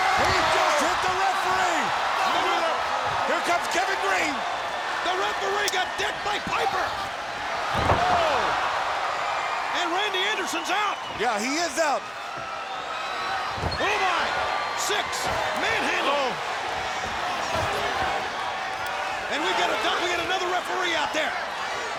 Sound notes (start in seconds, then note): 0.1 audience cheering; 7.4 body thudding; 12.4 audience cheering